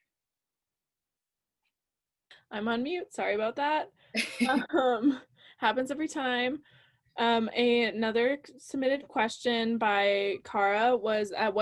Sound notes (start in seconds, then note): 4.2 laughs